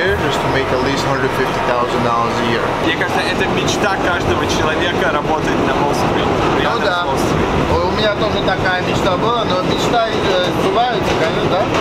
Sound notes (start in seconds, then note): 3.0 foreign language